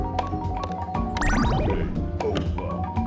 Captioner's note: slot Machine Jingles